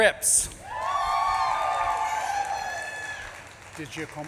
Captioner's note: audience claps and cheers